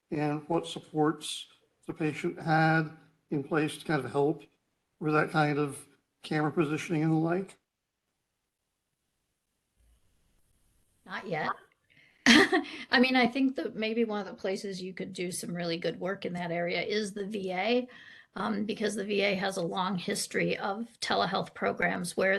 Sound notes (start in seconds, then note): 12.2 chuckles